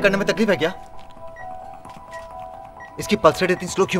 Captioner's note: Beeping sound